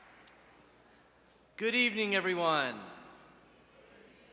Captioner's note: applause